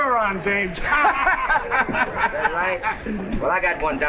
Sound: guffaws

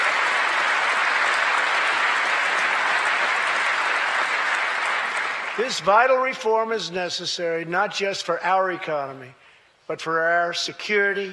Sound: applause

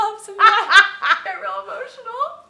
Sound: laughing

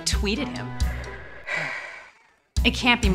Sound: sigh

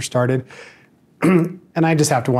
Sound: clears throat

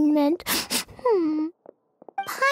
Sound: sobbing

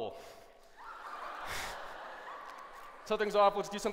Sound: laughter

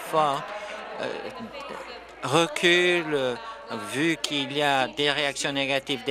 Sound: applause

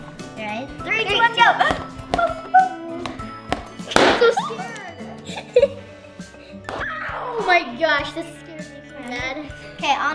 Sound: balloon pops

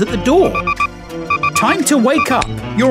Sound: alarm clock buzzing

